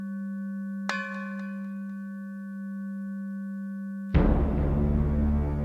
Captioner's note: bell clangs; dramatic, eerie music